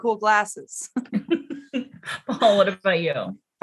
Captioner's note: both chuckle